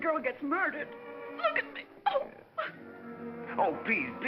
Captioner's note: sobbing